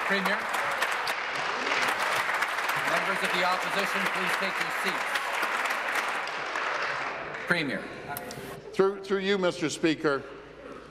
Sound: applause

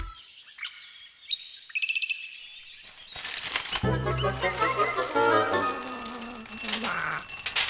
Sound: birds chirping

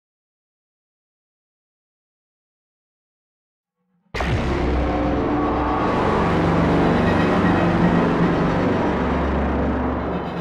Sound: sound of cyber city factory

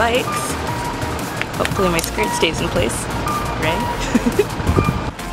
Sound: giggle

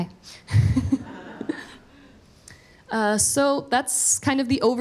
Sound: all laugh

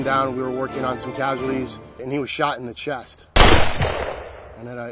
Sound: gunfire

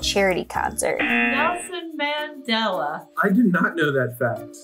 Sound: buzzer rings

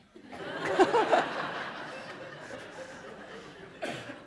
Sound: laughter

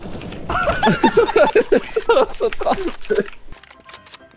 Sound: laugh

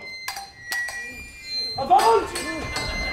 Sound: clanking

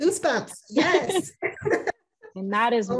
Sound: both chuckle

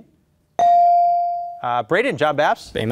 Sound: beep

